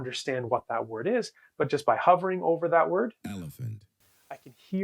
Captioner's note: AI speech